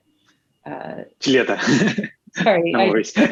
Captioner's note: laughs